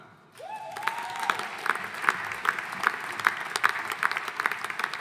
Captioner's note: audience applauding